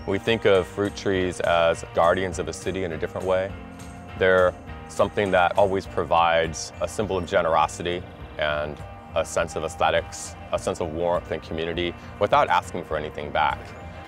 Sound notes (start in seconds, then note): none